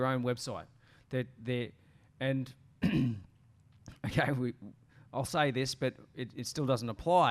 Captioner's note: clears throat